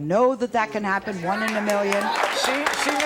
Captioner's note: audience cheering